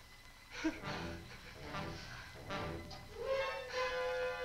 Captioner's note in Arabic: مارلو يلهث